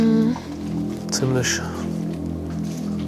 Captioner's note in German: Dröhnende Klänge